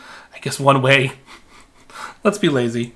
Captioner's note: laughing